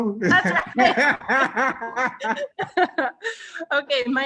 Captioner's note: both laughing; laughs